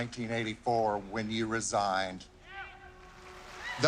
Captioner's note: crowd cheering